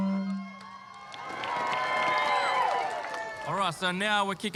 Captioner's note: cheering, applause